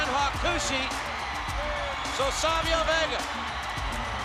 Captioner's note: spectators cheering